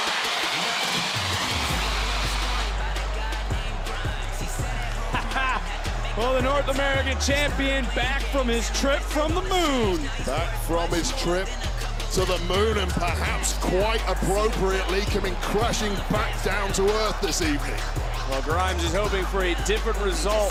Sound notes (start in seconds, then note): 4.9 chuckles